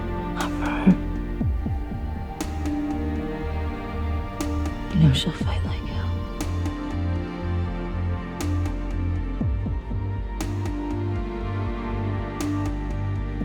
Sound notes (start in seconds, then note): 4.9 voiceover